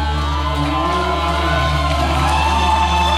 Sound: cheering

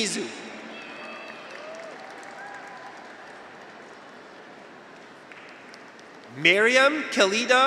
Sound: graduates cheer; audience applauds

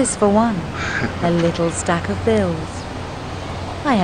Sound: Tanner chuckling

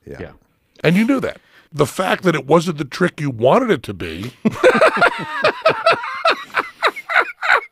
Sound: laughs

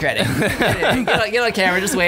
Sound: laughter

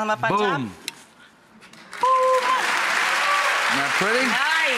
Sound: applause

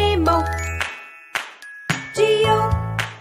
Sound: clap

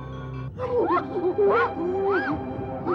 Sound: grunts

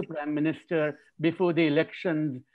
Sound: chuckles

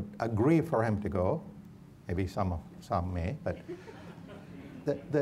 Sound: audience laughs

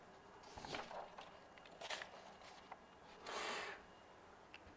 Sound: papers rustling

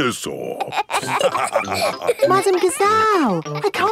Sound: all laughing

